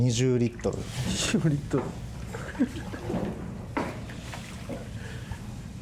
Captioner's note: laughs